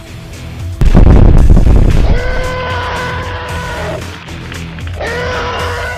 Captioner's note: crackling of burning leaves; flames bursting; creature howls; screeching creature